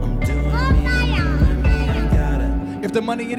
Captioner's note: child babbling